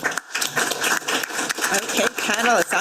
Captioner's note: attendees clapping